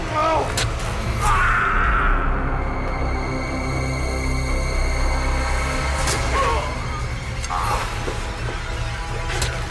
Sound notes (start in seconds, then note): 0.0 dramatic music; 1.5 Meathook Man screaming; 3.7 intense music; 6.6 Meathook Man grunting